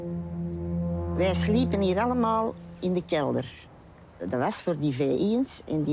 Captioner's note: speaking foreign language